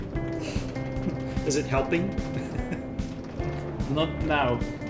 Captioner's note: laughs